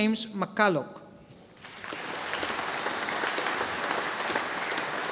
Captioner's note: audience applauding